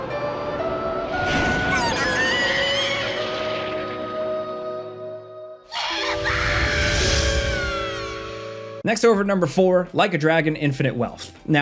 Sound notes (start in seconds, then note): 0.2 gentle music; 6.4 character yelling